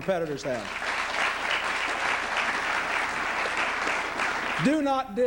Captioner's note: applause